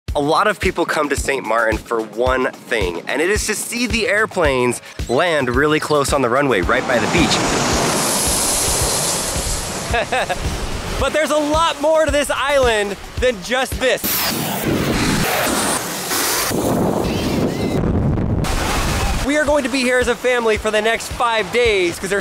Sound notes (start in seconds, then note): 6.6 airplane engines revs; 7.7 chuckles; 14.3 airplane engines revs; 17.4 wind swooshing; 18.4 water splashing